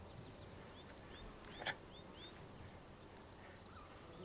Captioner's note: birds chirping